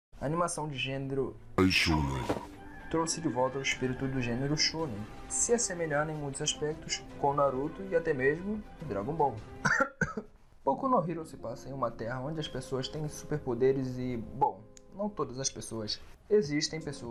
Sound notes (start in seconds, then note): 9.6 cough